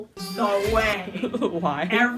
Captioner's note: laughing